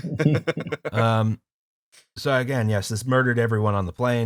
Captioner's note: laughter